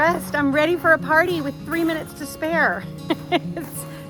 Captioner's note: laughs